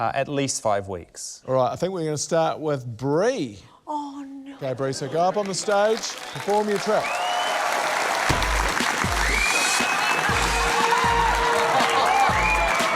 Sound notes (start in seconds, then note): 7.2 cheering, applause; 10.1 hip-hop music plays